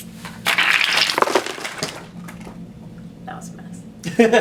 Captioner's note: cards spring